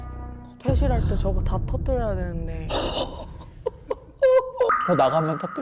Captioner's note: crashing sounds